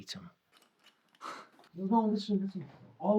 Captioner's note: Sam scoffs